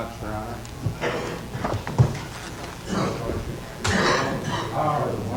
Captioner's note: people moving around; coughing